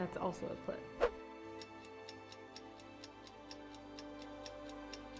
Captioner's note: clock ticking